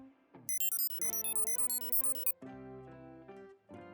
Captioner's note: beeping